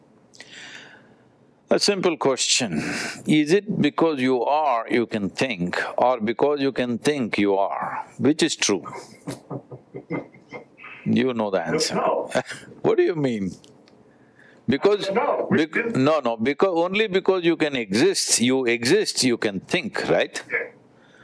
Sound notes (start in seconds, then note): 8.9 Vusi laughs